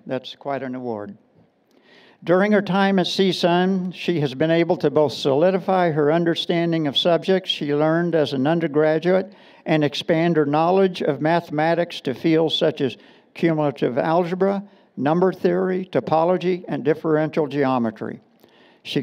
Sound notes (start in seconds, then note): none